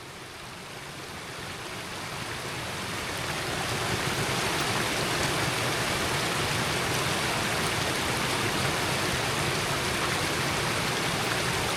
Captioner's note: water splashing